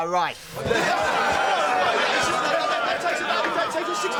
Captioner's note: jeering